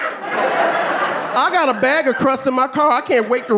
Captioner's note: audience laughing